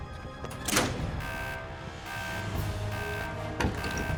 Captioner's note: alarm sounding